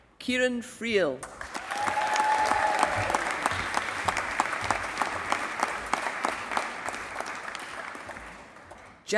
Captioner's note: applause